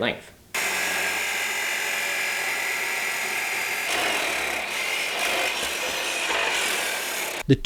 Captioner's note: saw noises